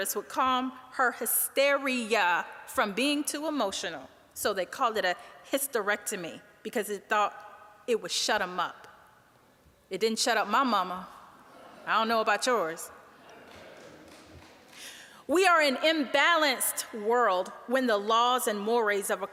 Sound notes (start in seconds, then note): 11.0 audience laughing